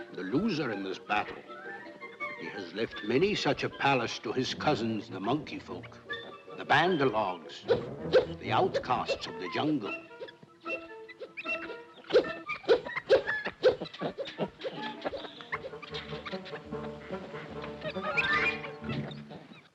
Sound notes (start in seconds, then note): 11.7 monkey hoots; 13.8 monkeys grunting; 13.8 whimsical music